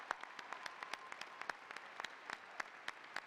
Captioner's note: applause